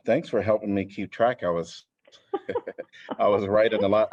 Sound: laughter

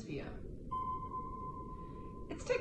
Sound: submarine ponging

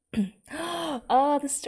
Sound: gasps

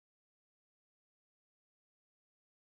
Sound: none

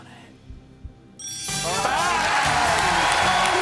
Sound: chiming; cheering

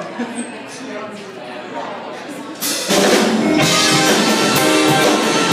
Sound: crowd noise

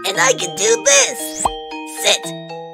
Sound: pop!

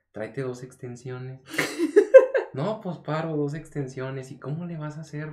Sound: laughs

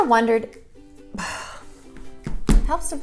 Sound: sighing

